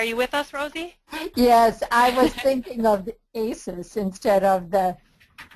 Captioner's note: voiceover